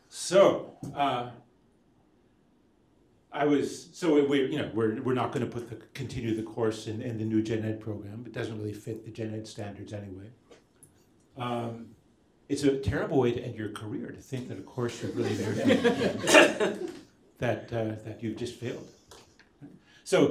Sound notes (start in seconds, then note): 14.9 laughter